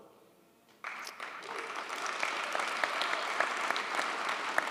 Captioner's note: audience applauds